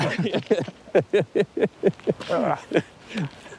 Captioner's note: both laugh